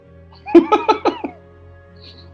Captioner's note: giggling